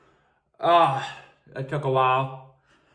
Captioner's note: sighs exhaustedly